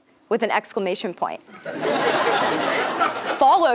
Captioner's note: laugh